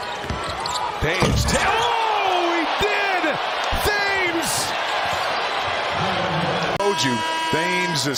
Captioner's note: crowd noise; cheers and applause